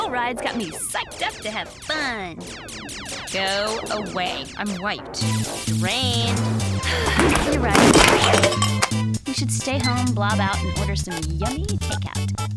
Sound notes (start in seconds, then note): 6.8 sighing